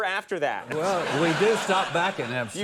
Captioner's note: laughing